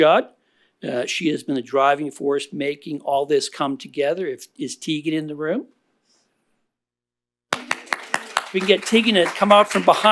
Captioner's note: applause